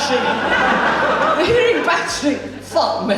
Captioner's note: audience Laughs